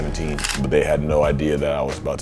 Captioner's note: camera shutters